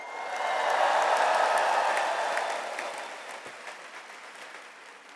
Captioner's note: audience applauds